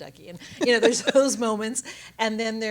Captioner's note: woman laughs